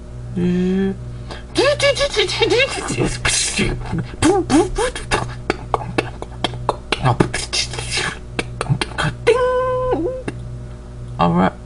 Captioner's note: sounds of preparing food